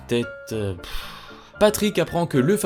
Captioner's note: sigh